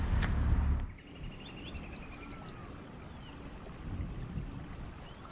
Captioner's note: birds chirping